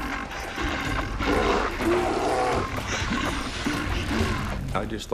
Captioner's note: bear growling